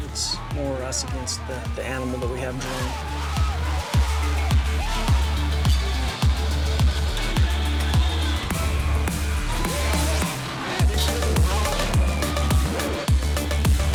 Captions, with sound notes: it's more us against the animal we have drawn. (crowd cheering) (upbeat music)